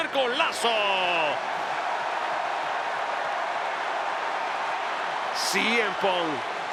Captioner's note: applause